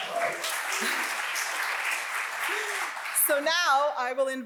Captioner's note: audience applauds